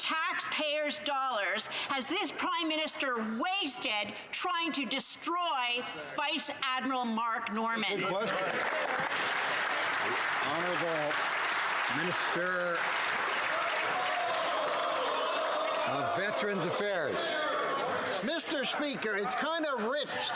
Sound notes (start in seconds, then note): 12.4 some Applause